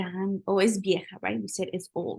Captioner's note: speaking spanish; spanish